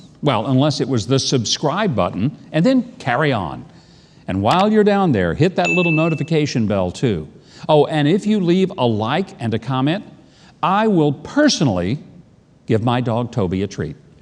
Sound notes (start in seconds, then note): 5.6 bell dings